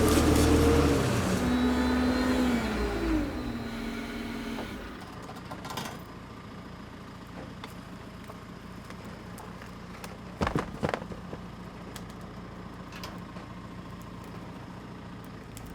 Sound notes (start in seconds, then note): 1.7 vehicle arm extending loudly; 6.5 engine running calmly; 10.4 wood toppling on ground; 12.2 engine running calmly